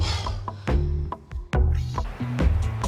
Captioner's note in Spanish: Exhalan